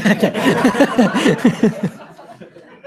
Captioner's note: laughter